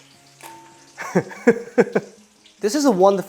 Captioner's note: laughs